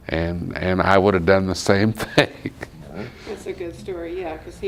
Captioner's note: laughs